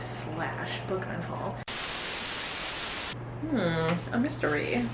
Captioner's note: static